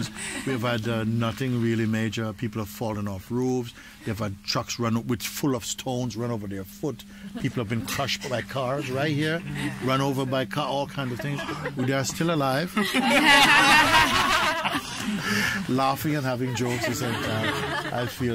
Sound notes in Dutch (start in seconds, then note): 12.6 gelach